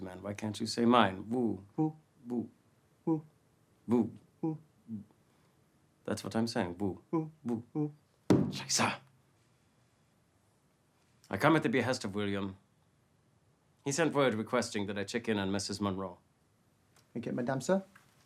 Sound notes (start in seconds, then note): 8.3 cane stomping; 8.4 speaking foreign language